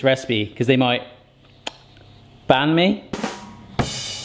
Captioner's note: lip smacks; drum beats